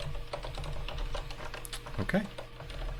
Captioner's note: keyboard keys clanking